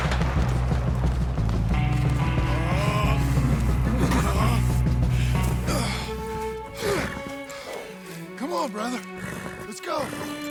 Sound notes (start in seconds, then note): 2.4 Arthur grunts in despair. He kneels besides Baldur. It's dying